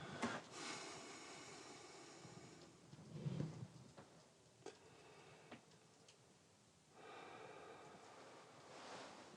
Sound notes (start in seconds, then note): 0.6 sighs